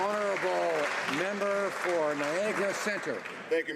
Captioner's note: some Applause